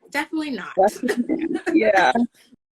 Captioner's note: laughing